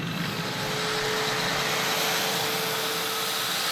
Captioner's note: angle grinder howls loudly